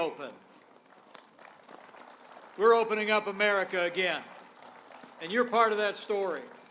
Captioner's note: applause